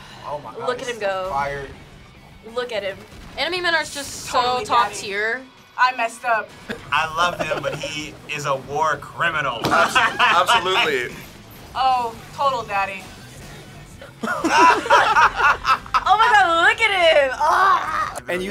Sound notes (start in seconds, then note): 9.6 laughter; 14.2 laughter